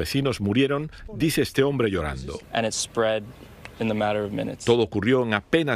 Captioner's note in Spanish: habla en ingés